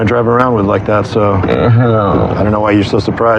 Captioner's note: moaoans